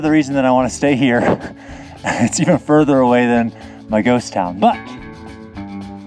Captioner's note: chuckles